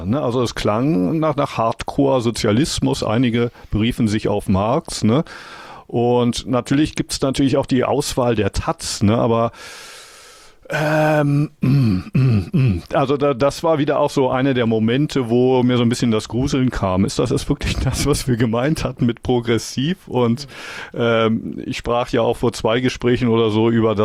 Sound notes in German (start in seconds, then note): 9.5 japst; 10.6 seufzt; 10.8 räuspern